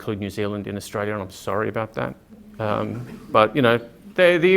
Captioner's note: laughter